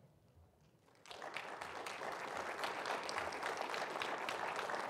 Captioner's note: audience applauding